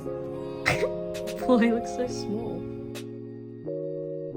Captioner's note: laughs